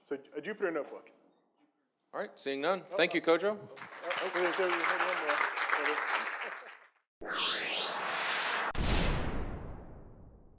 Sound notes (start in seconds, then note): 3.7 audience claps; 7.2 logo whirs